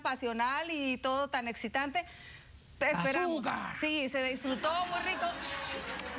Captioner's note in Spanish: risas